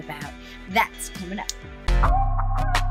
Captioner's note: snaps finger; upbeat music